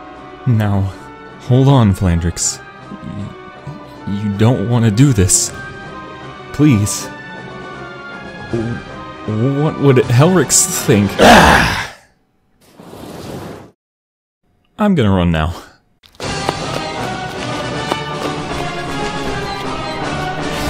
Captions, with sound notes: Now hold on Flandrex, you don't wanna do this. Please! W-What would Helryx think- [Roars] I'm gonna run now.